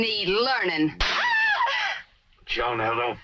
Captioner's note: slaps; screams